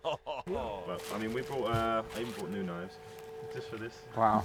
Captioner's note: laughing